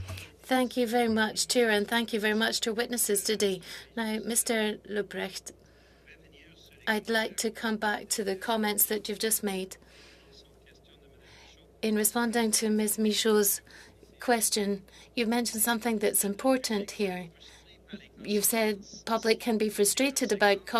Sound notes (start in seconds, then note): 5.3 speaking French